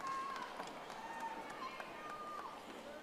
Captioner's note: audience applauding